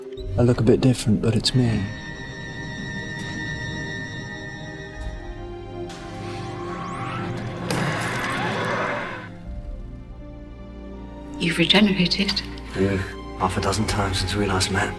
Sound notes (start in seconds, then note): 5.9 TARDIS crashing